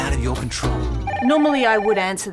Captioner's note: phone rings